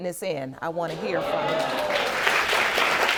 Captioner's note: audience applauding